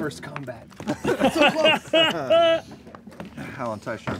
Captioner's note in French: rires